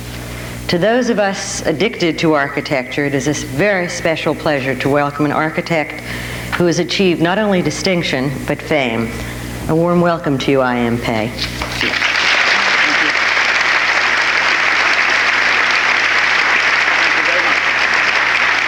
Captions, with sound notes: To those of us addicted to architecture, it is very special pleasure to welcome an architect who has achieved not only distinction but fame. A warm welcome to you, I.M. Pei. (audience applauding) - Thank you. Thank you very much.